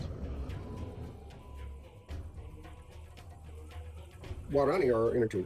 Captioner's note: sirens wailing